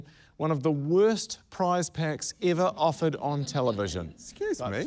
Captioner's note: none